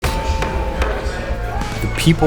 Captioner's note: people clamoring